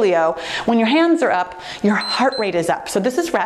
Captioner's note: timer beeps